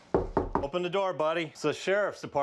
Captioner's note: knock on door